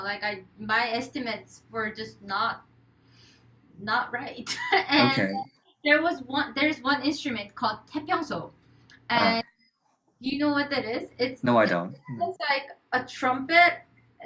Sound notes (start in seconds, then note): 12.4 laughs